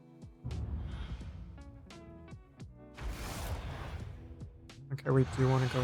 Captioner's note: dramatic music; whooshing